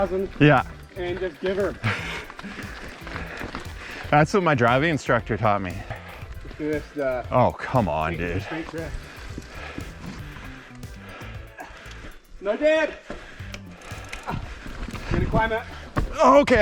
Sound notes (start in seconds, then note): 10.9 pants